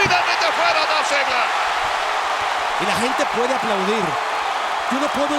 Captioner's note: applause